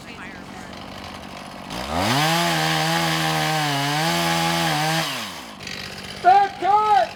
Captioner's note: drowned out by chainsaw buzzing